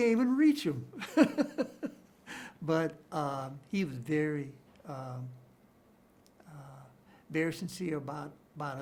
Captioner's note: chuckles